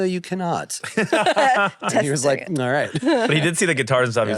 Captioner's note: laugh